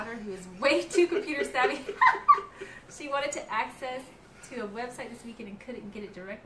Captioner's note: laughter